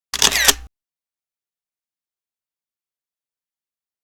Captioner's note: camera lens snapping